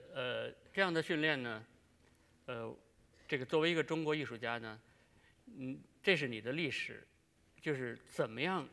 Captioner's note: speaking in Chinese